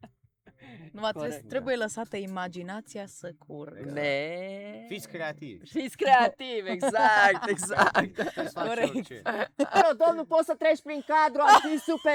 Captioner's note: everyone laughs